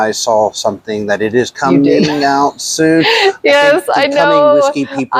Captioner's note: laughs